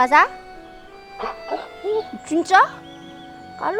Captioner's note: whining